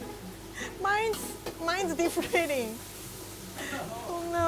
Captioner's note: chuckling